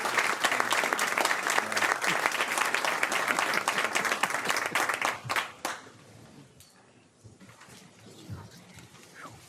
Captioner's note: applause